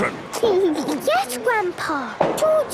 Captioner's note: giggles